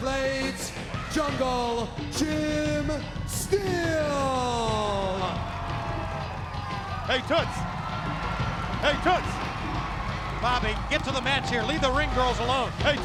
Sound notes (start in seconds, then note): 5.0 crowd cheering